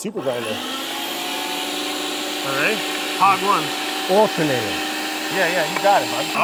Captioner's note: grinder blocking out conversation